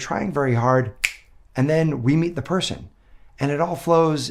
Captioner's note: finger snaps